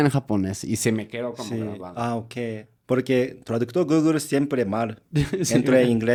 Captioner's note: laughter, interruptions are heard